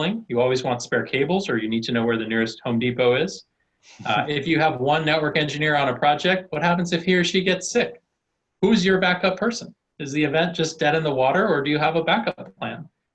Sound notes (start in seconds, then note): 4.0 laughing